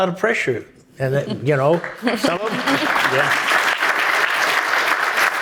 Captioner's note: audience applauding